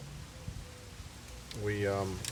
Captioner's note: none